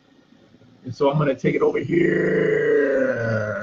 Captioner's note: vibrating